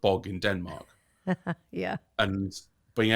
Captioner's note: laughing